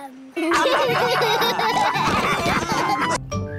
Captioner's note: all laughing